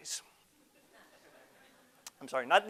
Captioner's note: audience laughter